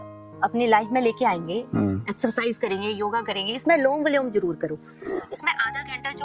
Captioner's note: alternate nostril breathing